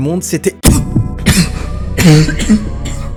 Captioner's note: cough violently